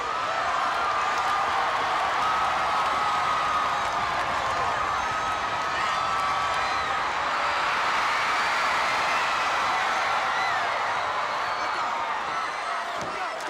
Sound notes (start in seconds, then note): 0.1 audience chattering continues; 7.7 audience roaring